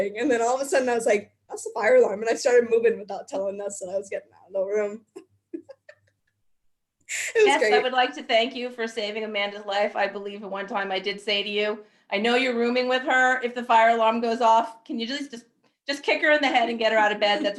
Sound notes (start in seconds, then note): 5.5 laughing